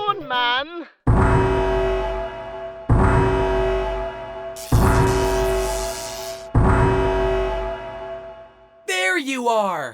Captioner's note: siren blares